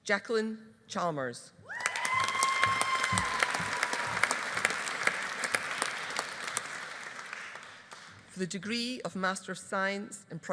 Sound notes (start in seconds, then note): 1.7 audience cheering; 1.8 audience applauding